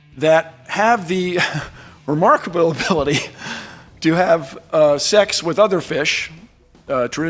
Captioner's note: chuckling